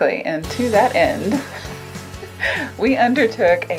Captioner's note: laughs